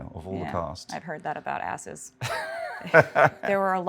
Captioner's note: Martin laughs